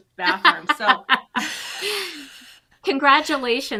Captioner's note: chuckles